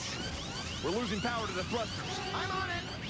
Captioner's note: alarm blares